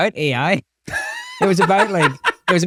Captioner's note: laughing